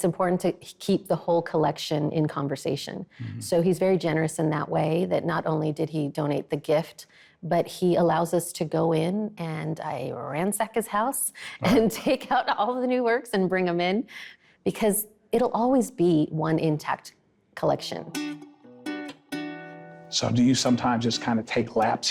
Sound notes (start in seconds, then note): 11.6 laughs; 18.0 mellow guitar music